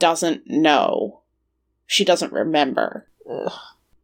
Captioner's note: disgusted sound